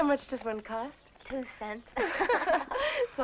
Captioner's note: all laughing